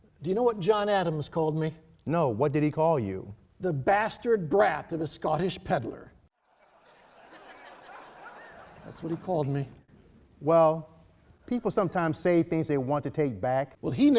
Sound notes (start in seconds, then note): 6.6 laughing